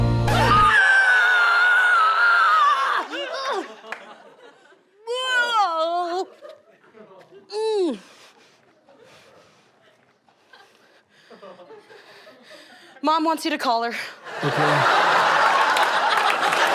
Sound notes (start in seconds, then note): 0.3 screaming; 4.9 sounds of disgust